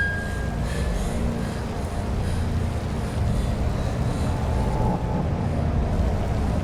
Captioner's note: ominosa de la música; respira fuertemente